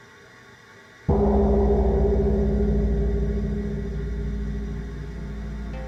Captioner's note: gong sound